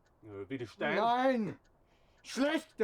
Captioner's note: speaking German